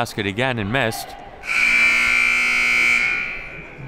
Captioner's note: clock buzzes